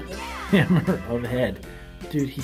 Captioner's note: laughs